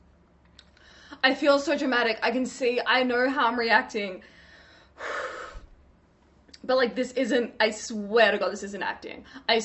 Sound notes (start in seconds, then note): 4.9 sighs